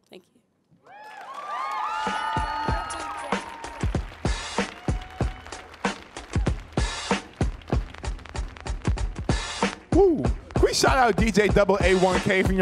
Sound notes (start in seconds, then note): 1.0 audience cheering; 2.5 upbeat music